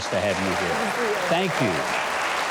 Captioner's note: audience applauding